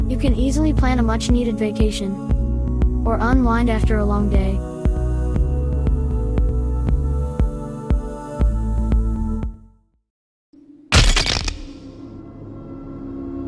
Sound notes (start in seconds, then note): 10.9 skull shatters loudly